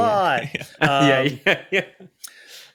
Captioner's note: laughs